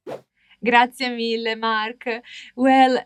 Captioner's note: speaks Italian